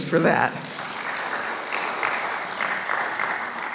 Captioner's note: applause